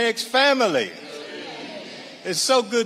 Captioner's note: audience responding